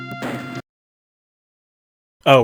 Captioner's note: music abruptly stops